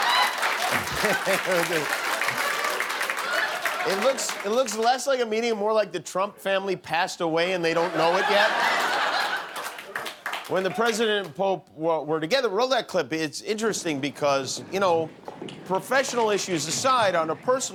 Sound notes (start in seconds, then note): 0.6 laughter; 9.9 laughter